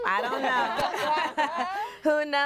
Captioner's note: everyone laughs